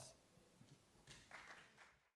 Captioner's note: applause